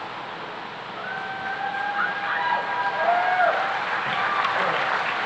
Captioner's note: cheering and applause